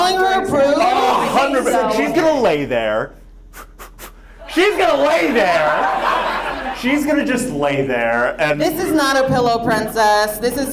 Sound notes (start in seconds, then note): 3.5 blows air; 6.1 audience laughs